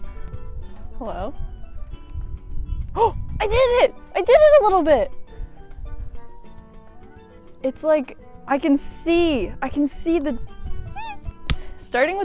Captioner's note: excitement